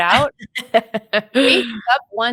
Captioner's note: laughing